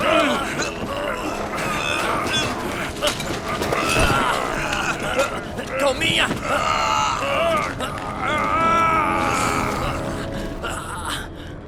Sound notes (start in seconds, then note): 7.5 groaning, grunting